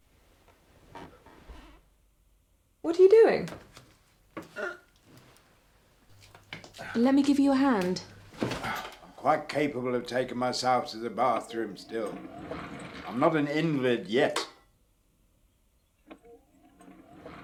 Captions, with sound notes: - What are you doing? (Michael grunting) - Let me give you a hand. - I'm quite capable of taking myself to the bathroom still. I'm not an invalid yet.